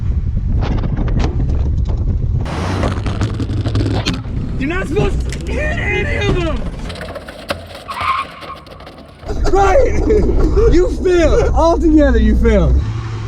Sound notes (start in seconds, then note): 0.9 wind; 8.0 tires screech